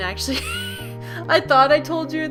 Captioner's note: wheezes